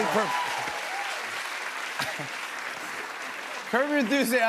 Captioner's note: cheers and applause